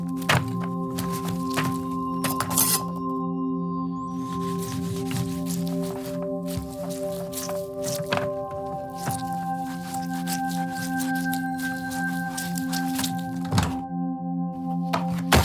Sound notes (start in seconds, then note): 2.3 knife drawing sound; 4.4 knife cutting sound; 13.4 thumps